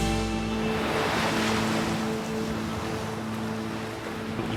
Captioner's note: waves crash